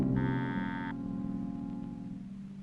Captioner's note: doorbell buzzing